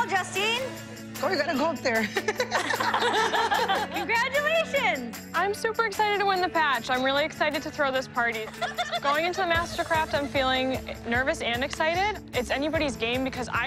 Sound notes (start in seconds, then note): 2.0 laughter